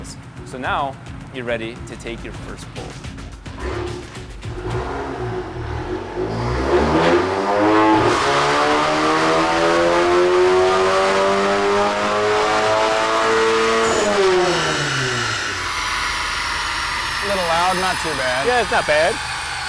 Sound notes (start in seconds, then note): 3.4 engine revving